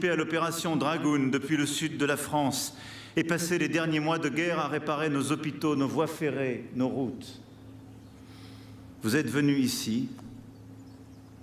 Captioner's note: speaking french